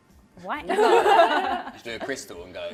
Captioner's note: laughter